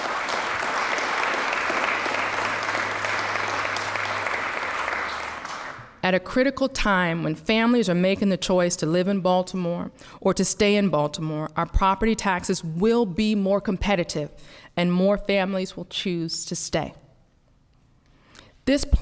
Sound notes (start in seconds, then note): 1.9 applause